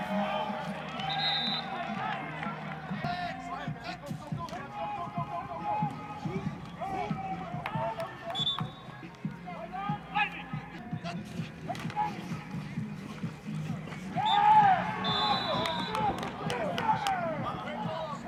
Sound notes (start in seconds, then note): 1.0 whistle blows; 1.4 applause; 8.3 whistle blows; 15.6 applause